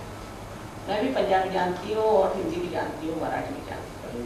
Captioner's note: hindi